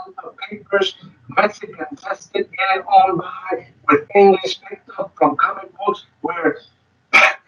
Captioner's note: speaking distorted